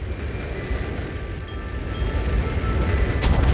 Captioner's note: rocket thrusting